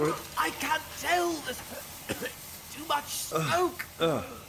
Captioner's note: cough